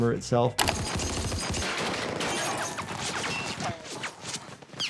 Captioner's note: gunshots ring